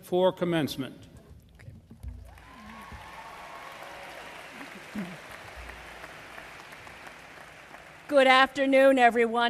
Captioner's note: applause